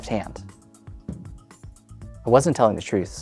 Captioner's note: cup thuds